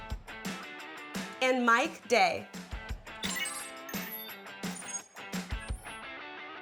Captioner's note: electronic beeps